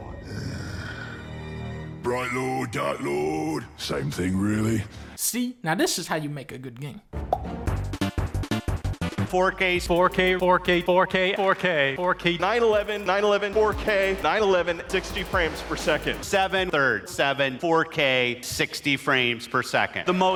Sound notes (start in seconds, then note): 0.0 thrilling music; 7.3 pop